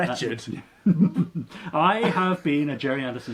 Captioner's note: laughs